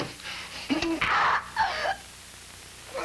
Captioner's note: she screams